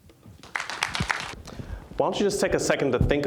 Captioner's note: applause